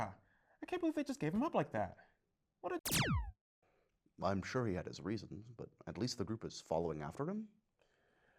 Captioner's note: blast